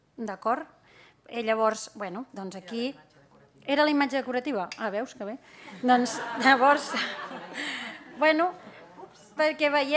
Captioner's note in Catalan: riures